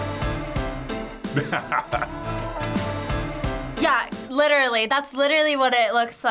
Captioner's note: laughs